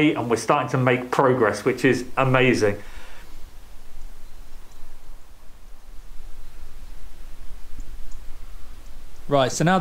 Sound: wind rustles through the trees

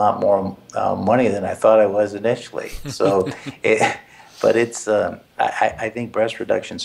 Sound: laugh

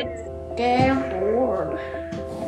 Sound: upbeat piano music fades in; voice of child

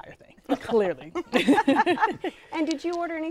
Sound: laughter

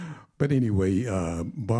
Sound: chuckling

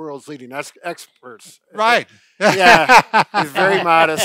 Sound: laughing

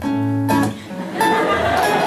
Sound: laughter

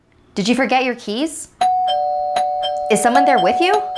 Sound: doorbell rings

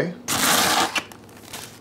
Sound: ripping; plastic crumpling

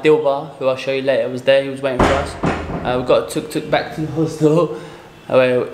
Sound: knocking sound louder

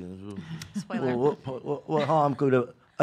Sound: laughing

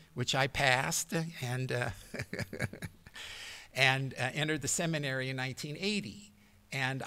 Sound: laughter

